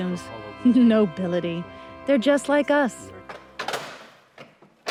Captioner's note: chuckles